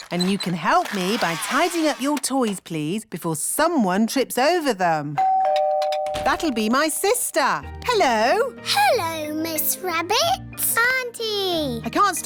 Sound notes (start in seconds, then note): 5.2 doorbell rings